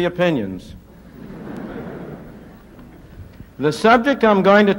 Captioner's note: laughter